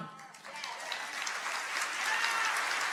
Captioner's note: crowd clapping